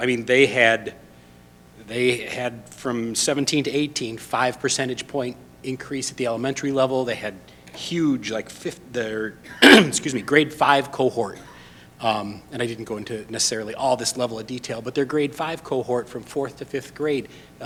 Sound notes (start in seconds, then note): 9.3 coughs